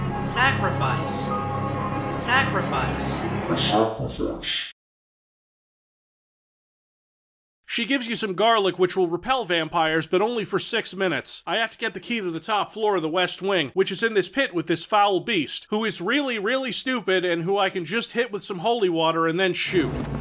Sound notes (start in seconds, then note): 3.4 demonic distortion